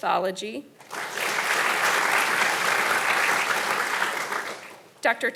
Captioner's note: audience applauding